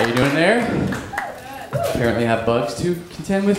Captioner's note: cheering